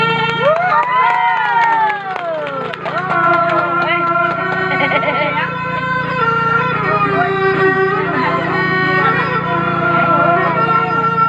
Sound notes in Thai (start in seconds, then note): 2.0 ปรบมือ